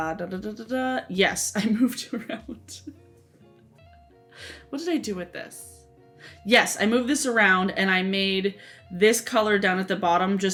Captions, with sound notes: Dah, dah, dah, yes I moved around. (laughing) What did I do with this? Yes, I moved this around and I made this color down at the bottom,